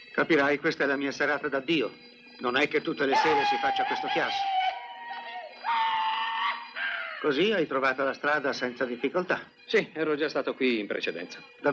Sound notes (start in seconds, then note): 6.3 hollering